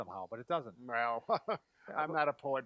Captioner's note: laughs